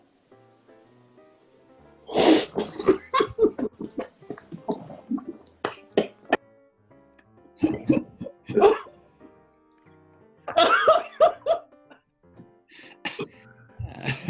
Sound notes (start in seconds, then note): 2.5 spluttering and giggling; 10.6 hoots of laughter